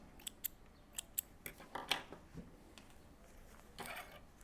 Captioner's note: scissors snipping